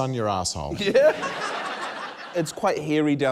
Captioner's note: laughter